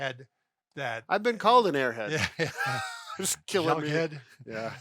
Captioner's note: laughs